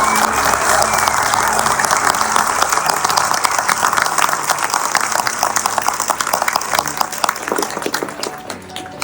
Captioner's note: applause and cheers